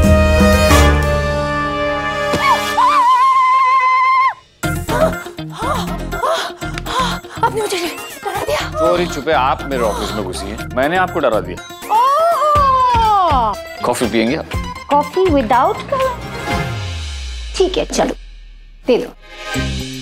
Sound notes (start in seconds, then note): 2.4 Screams; 4.8 Romila panting; 10.1 Panting continues